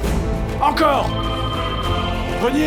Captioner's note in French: sonnerie de téléphone